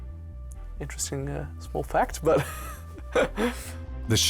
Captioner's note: laughs